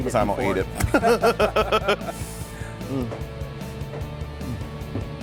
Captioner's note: laughing